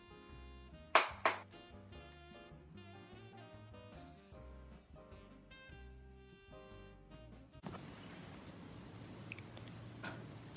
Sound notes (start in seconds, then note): 0.0 chill music plays faintly; 0.9 claps